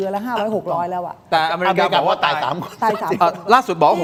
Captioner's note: laughter